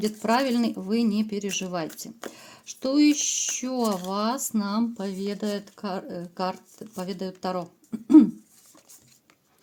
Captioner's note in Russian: откашливается